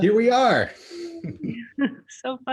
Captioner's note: chuckles